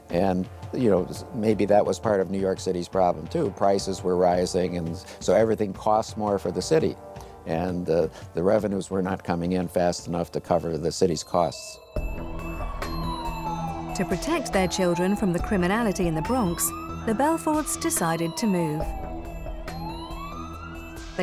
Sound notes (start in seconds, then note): 11.4 intriguing music; 12.4 siren wails